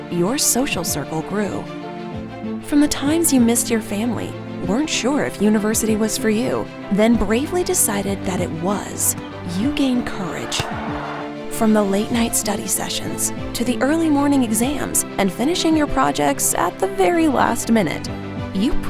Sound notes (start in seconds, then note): 9.9 ball thudding